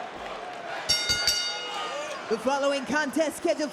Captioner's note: bell dings